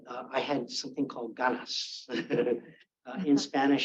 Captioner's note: Robby speaks Spanish